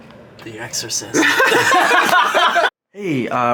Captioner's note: all laugh